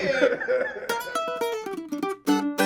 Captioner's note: laughs; cheerful music